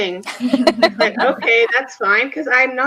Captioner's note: both laughs